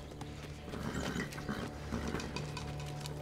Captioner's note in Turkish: At kişneme sesi